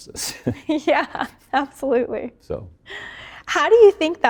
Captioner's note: both laughing